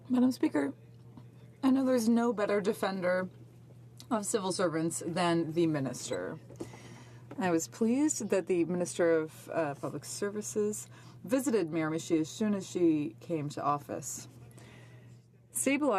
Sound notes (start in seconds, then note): 6.0 speaking French